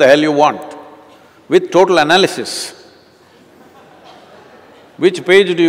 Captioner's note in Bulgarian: смях